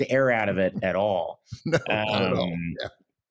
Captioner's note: laughing